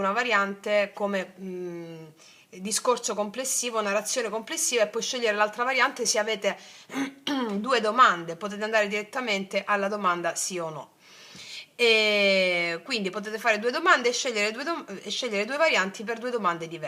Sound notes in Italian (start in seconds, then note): 6.9 schiarire la voce